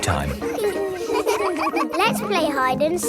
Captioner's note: all giggling